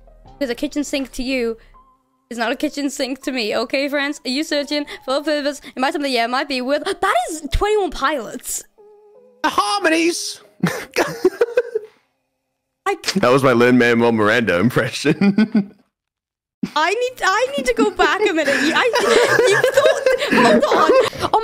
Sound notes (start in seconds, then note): 2.2 continues singing; 9.7 Lin-Manuel Miranda voice